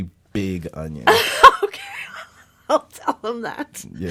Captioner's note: laughs